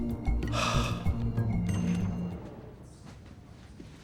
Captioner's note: Wags sighing